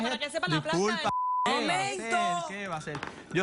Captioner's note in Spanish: Bip